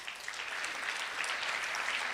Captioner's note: applause